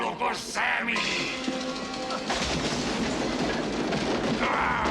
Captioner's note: yelling